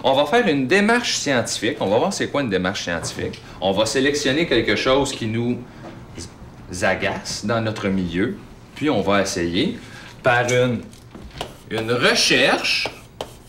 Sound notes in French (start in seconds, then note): none